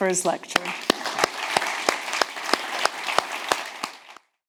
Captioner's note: audience clapping